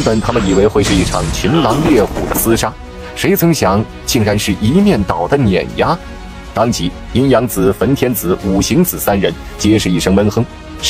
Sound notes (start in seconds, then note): 5.8 crushing